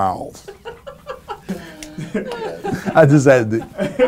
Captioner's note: laughter